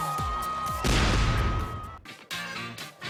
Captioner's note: cheering